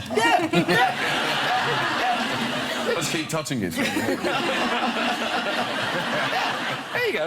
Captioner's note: audience laughs